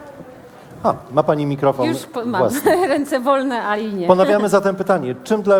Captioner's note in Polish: śmiech